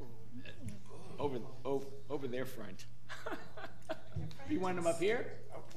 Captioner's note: laughing